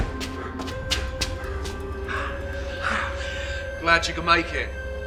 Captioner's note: doors slamming; footsteps pattering; Clive breathing heavily